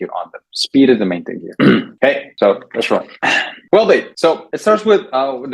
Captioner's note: clears throat